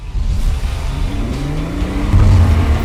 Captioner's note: engine revving